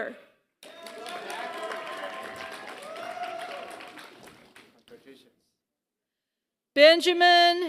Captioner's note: applause